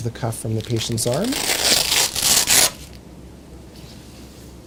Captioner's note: velcro tearing